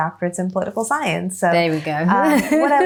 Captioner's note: laughs